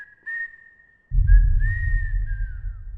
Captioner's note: boom